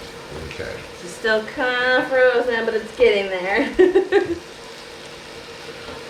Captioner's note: giggling